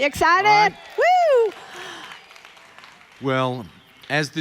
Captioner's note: audience applauding